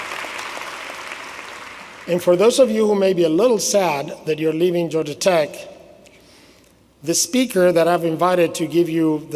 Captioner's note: applause